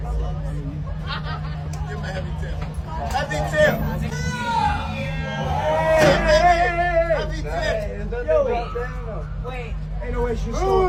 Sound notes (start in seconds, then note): 5.2 crowd shouts